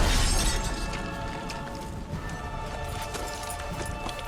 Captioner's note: glass breaking; dramatic music